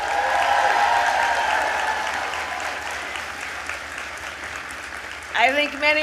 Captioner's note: applause